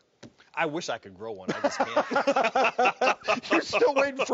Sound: laughing

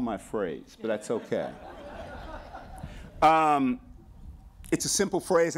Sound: laughter

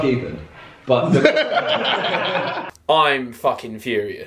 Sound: laughing

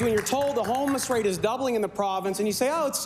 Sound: applause

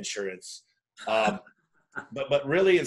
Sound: laughs

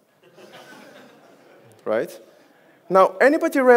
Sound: audience laughs

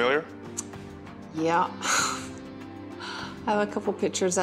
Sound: chuckles

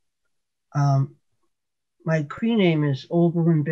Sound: Cree Spoken

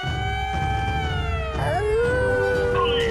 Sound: sirens blaring; howling

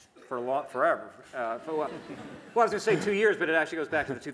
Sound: laughter

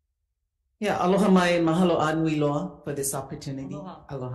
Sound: speaks Ōlelo Hawai'i

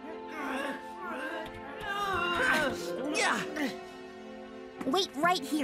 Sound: boys grunting

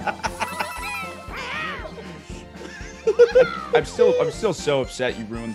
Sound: laugh

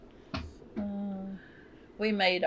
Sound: laughs

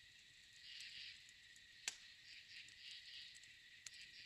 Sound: none

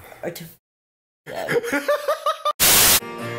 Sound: Lance laughing

